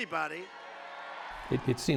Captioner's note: crowd cheering